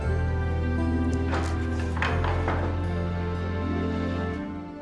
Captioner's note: door opens